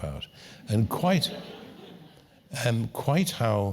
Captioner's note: laugh